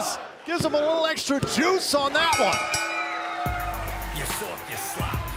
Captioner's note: bell ringing